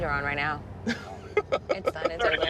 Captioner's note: laughs